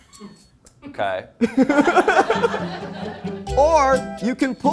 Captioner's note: crew laughs; and crew laugh